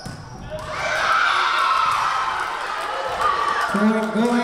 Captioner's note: crowd cheering